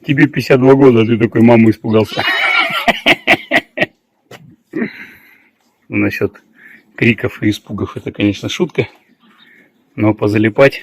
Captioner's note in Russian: смех; откашливается